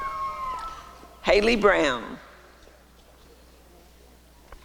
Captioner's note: applause and cheering; applause and cheering